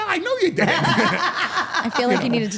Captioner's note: all laughing